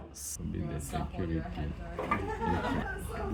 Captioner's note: background laughter and chatter